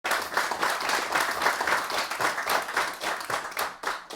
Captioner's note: audience clapping